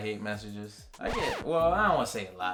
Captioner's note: record scratching